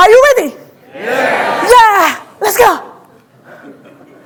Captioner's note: audience responds; audience laughing